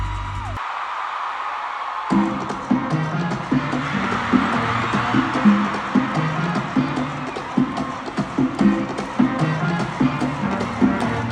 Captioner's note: applause